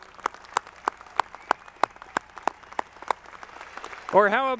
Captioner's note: audience clapping